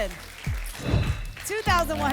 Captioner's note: whoosh